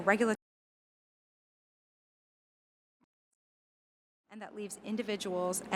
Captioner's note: audio break